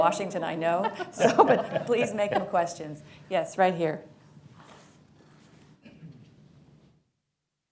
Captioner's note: laughter